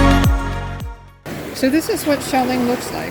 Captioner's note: surf roars